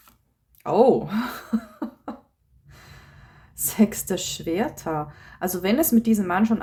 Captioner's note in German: gelächter